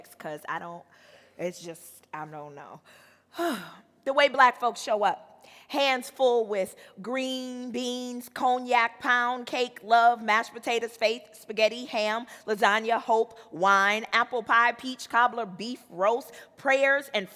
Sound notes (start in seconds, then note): 3.3 sighs